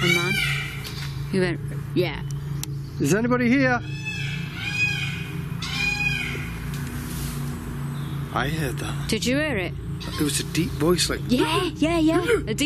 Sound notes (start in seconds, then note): 3.5 peacocks squawking